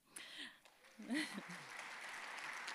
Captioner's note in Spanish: aplausos